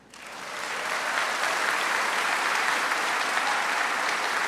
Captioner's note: audience applauds